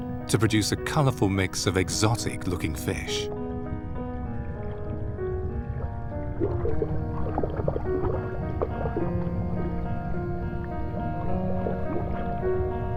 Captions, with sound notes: to produce a colorful mix of exotic looking fish. (gentle music) (water sloshes) (gentle music)